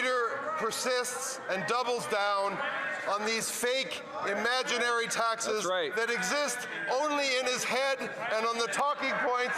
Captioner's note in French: voix de l'interprète